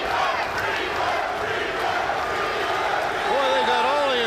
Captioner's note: crowd cheering